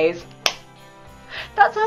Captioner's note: clap